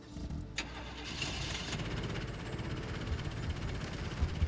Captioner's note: ignition turns over